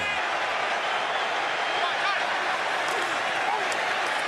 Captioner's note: cheering